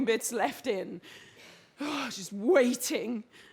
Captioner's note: she sighs